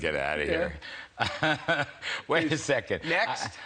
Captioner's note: laughter